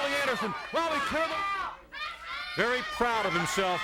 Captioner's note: crowd clamoring